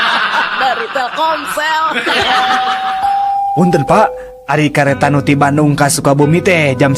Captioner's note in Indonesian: tertawa